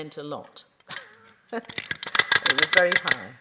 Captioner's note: false teeth chattering